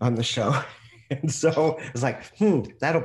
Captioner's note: laughing